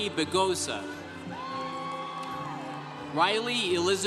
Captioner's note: congregation cheering